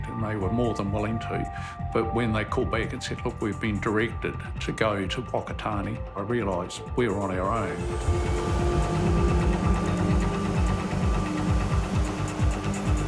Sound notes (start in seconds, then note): 7.4 helicopter engine hums; 10.3 intense music